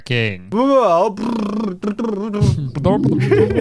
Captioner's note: babbling